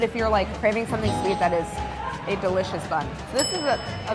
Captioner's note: bell dinging; bell dinging